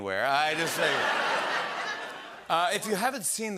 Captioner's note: laughter